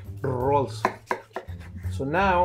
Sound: cutting burrito

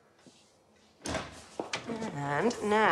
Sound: door opens

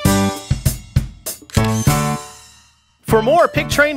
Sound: SFX: Camera Shutter

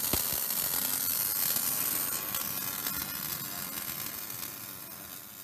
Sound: welding machine buzzes

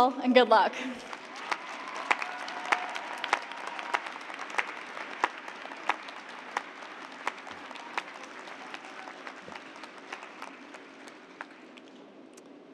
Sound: cheers and applause

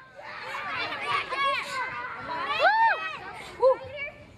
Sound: children shouting

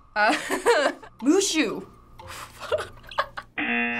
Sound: laughing

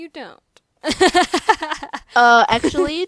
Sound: laughing

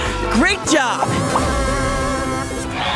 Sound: popping; cheering

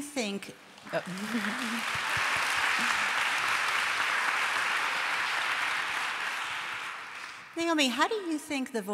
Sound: applause

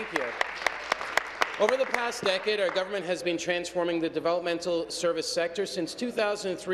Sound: applause

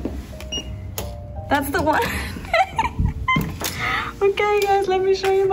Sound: laugh

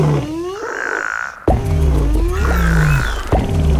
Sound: various animal sounds; frog croaks; roars; pattering; bellowing; squeaking

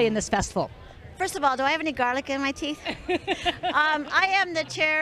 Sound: laughter

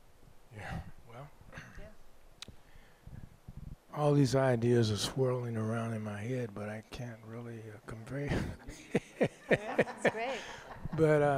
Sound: laughs

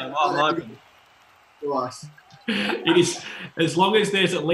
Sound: laughing

